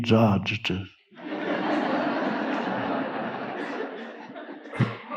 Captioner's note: audience laughing